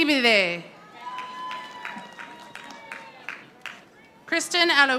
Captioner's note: audience applauding